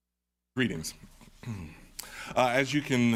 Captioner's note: clears throat